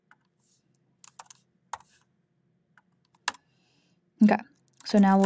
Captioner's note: keyboard clacking